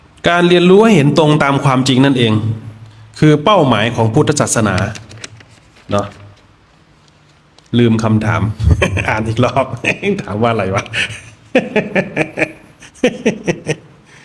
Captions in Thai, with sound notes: การเรียนรู้ให้เห็นตรงตามความจริงนั่นเอง คือเป้าหมายของพุทธศาสนา เนาะ ลืมคำถามอ่านอีกรอบถามว่าอะไรวะ [เสียงหัวเราะ]